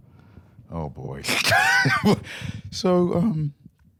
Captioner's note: laughs